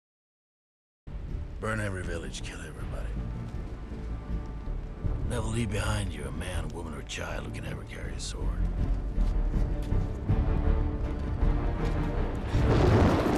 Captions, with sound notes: Never leave behind you a man, woman or child who can ever carry a sword. (thunder crashes)